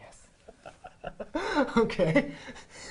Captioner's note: laughing